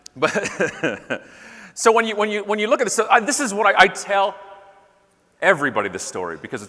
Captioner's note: laughing